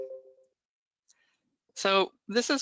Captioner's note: beeps